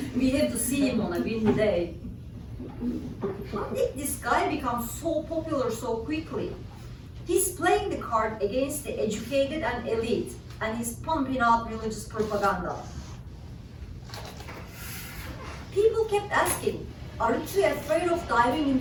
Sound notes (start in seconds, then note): none